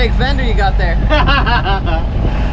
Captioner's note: laughter